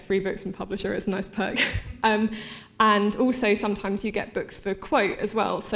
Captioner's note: laughing